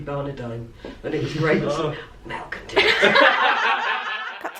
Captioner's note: laughter